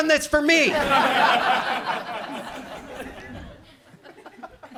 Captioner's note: audience laughs